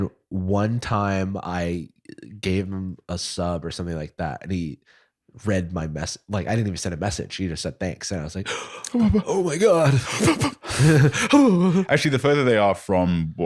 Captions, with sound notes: and one time I gave him a sub, or something like that, and he- read my me- like, I didn't even send a message, he just said thanks, and I was like (gasps) Oh my god. - Actually the further they are from